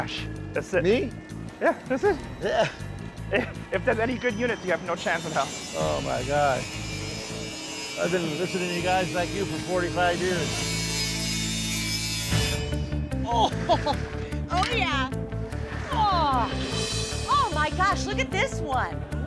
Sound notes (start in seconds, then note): 10.7 buzzing